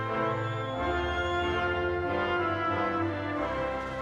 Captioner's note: audience whistles